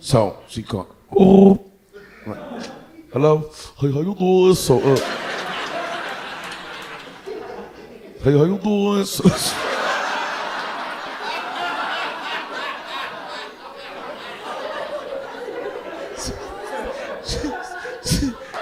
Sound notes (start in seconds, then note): 9.3 audience laughing